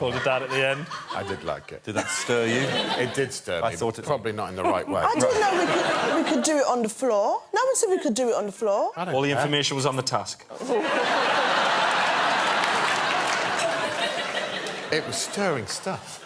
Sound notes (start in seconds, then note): 13.6 laughter